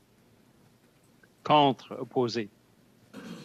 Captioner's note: speaking French